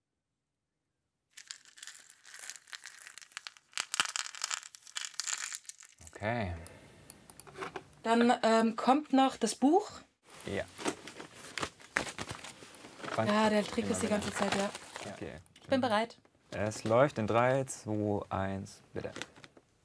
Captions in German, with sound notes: (Knarzende Geräusche) Okay. Dann kommt noch das Buch. - Ja. Ja, der trägt das die ganze Zeit. Ich bin bereit. - Es läuft in drei, zwo, eins, bitte.